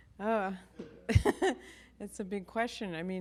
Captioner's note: chuckles